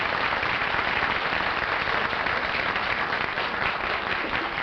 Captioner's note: applause